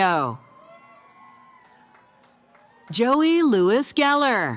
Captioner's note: cheering